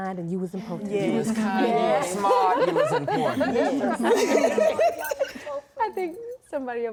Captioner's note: laughing